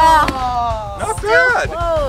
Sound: bangs; groans

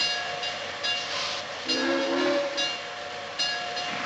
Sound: whistle Blows

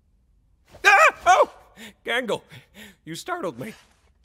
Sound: screams

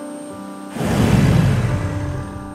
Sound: batmobile engines roar

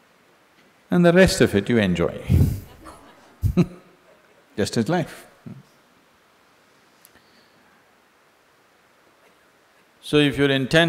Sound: laughs

